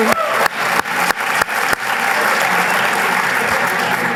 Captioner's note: applause